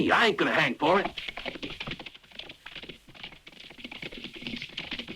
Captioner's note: hooves pattering